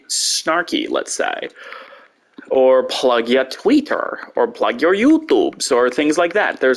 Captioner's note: slightly silly voice; normal voice